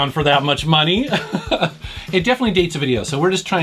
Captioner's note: laughs